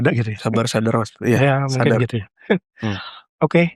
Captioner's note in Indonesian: tertawa